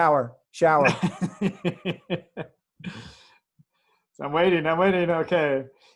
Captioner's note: laughs